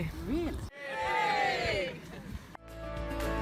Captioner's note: cheers